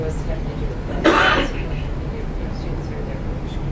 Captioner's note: cough